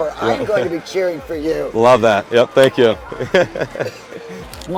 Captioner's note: laughs